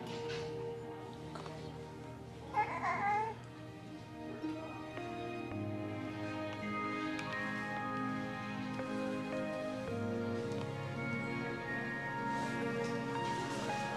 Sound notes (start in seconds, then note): 2.5 baby whimpering; 2.6 gentle music